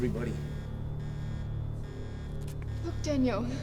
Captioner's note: alarm blaring; tense music